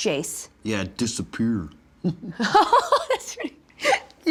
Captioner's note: laughs